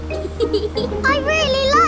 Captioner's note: george chuckling